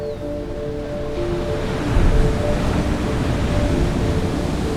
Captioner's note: waves crashing